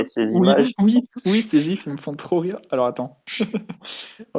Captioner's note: laugh